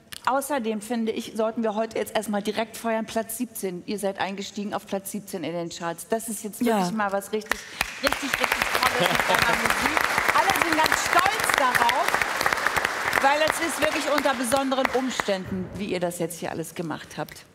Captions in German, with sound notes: Außerdem finde ich, sollten wir jetzt erst mal direkt Platz 17 feiern. Ihr seid eingestiegen auf Platz 17 in den Charts. Das ist ja mal was richtig, richtig tolles. *Applaus* Alle sind stolz, weil es ist wirklich unter besonderen Umständen passiert. Wie ihr das alles gemacht habt.